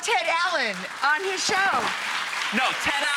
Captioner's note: audience clapping